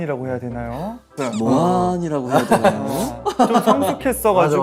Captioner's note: copies his tone